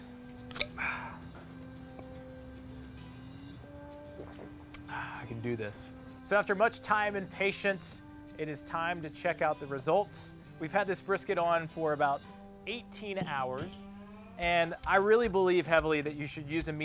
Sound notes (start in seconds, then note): 0.1 click; 0.6 sighing; 3.6 squishing; 4.1 sighing